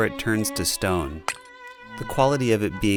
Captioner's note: clink